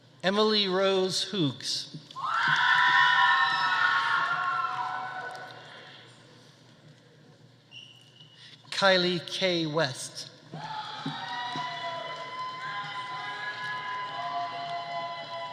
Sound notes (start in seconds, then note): 2.2 audience cheering; 3.2 audience applauding; 10.6 audience cheering